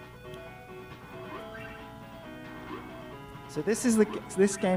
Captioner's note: game beeping